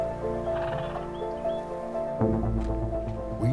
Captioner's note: horse sighs